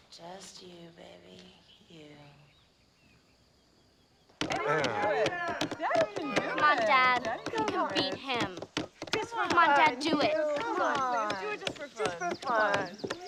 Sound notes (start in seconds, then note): 4.4 cheers